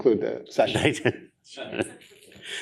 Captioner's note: laughs